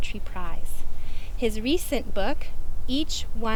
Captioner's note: none